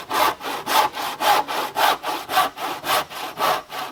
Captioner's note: sawing